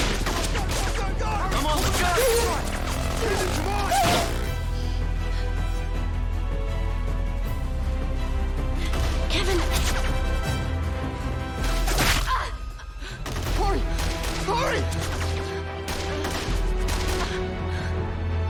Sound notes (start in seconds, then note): 13.2 gunshot